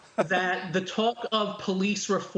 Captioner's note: laughter